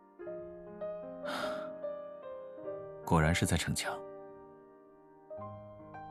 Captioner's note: sighs